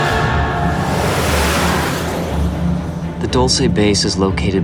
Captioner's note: whooshing